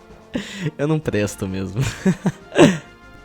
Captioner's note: laughs